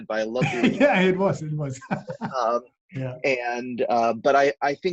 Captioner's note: laughing